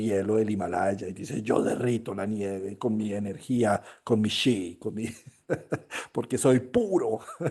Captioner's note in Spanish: risas